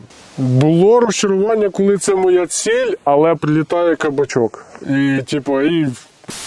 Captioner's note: mortar round